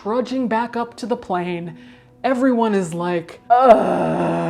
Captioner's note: groans